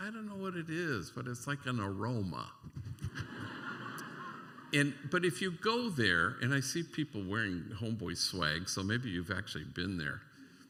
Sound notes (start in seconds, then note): 2.6 laughter